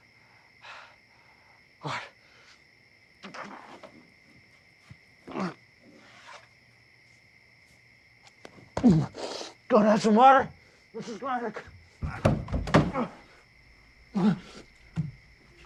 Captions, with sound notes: Water. [grunting] Going to have some water, Mrs. Grinder. Ahh, ahh, ahh.